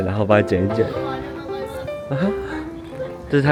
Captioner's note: gasp